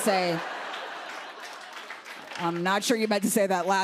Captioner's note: laughter